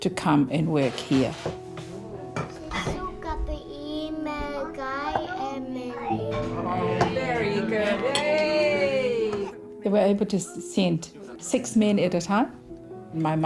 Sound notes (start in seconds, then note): 3.4 speaking in local language